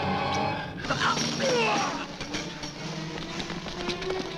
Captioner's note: man grunting